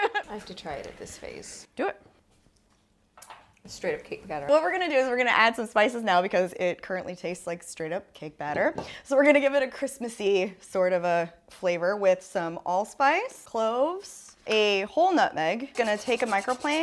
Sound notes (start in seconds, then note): 0.0 laughing; 3.1 finger sucking